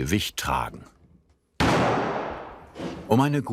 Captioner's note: loud cracking